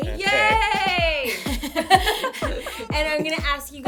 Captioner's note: laughter